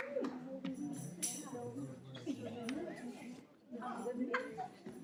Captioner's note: audience chattering